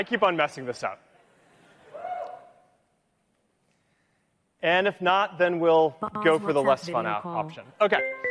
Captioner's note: laughter